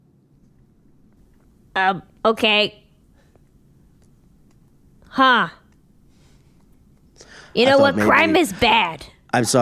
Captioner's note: pause